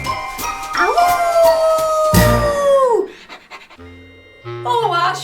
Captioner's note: dog howling